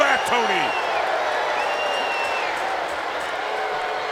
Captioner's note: crowd boos